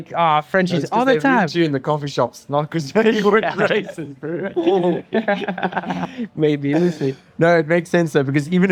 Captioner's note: laughs